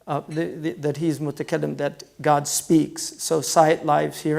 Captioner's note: foreign language